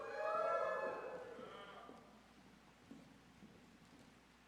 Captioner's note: audience cheers